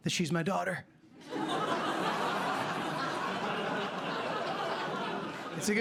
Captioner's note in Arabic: ضحك